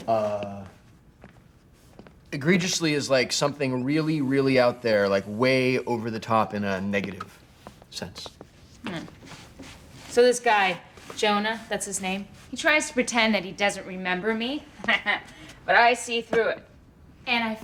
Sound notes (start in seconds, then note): 14.8 chuckling